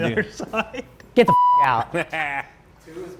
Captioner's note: beep